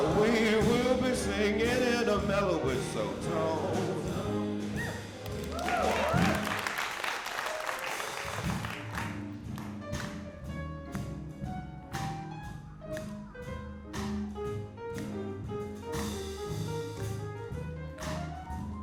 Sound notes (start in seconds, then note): 5.2 applause; 9.4 jazz music